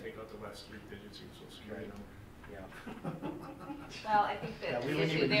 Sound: laughs

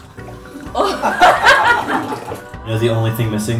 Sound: laughter

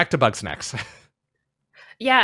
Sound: chuckles

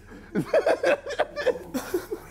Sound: laughs

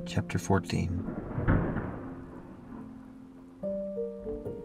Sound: distant thunder

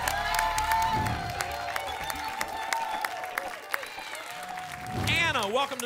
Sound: applause and cheering

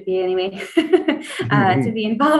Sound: laughs

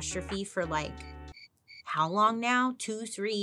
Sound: crickets chirping

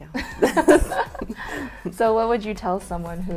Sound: laughs

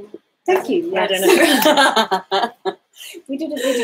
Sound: both laughing

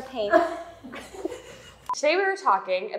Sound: team laughing

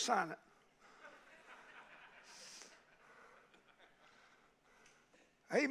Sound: congregation laughing

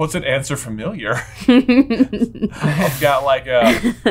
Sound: laughing

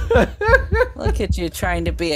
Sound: laughs

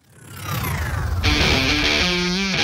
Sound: scene whooshes; rock music

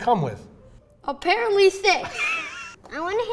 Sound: laughs

